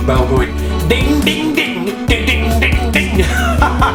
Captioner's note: laughs